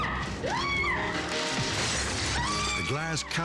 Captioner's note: staff member screaming; glass shattering